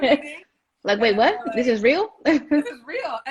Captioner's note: laughs